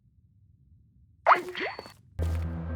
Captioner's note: disconnect sound